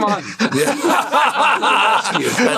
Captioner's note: laughter